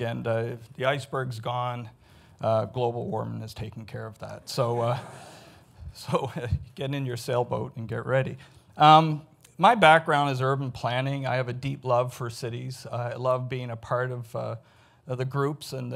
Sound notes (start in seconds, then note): 4.7 audience laughs